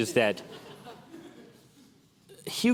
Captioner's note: laughter